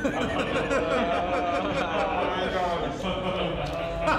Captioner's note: all laughing